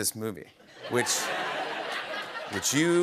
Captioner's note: laughter